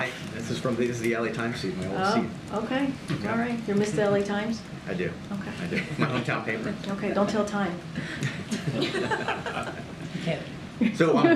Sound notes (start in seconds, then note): 5.6 laughs; 8.0 laughter